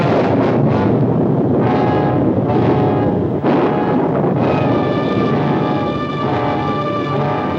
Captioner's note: thunder booms